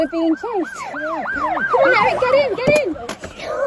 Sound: police sirens

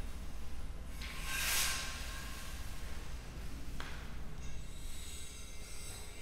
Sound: metal scraping continues

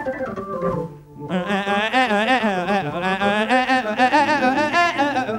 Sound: vocalizing

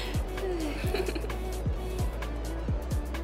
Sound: giggles

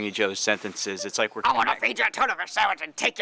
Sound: gravelly voice

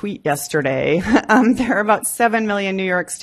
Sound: laughs

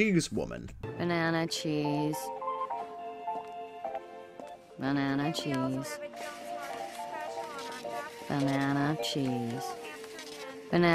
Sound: bored tone

